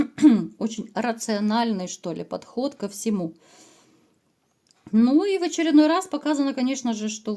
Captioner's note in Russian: откашливается